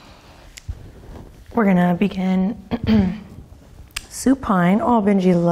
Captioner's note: throat clearing